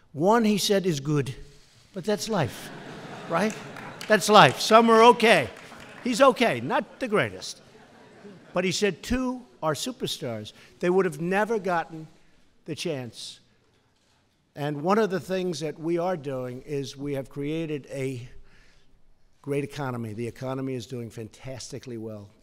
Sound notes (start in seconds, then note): 2.5 laughter